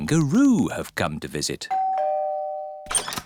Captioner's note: doorbell rings